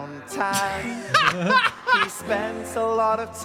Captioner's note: both laughing